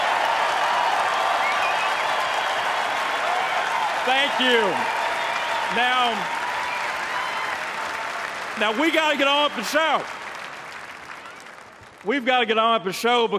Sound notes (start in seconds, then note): 0.1 applause, cheers; 6.5 applause